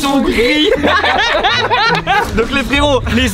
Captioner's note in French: rires